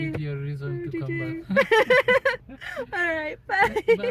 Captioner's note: laughing